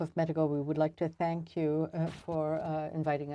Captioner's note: speaking French